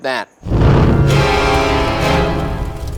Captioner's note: smoke whooshing; dramatic music